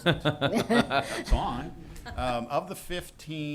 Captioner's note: laughter